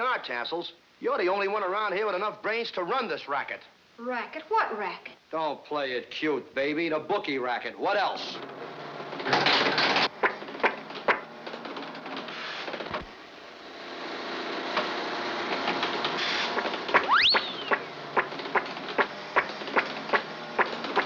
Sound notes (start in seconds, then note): 10.0 sputtering; 10.4 sploshing; 14.6 loud rattling; 18.1 whirring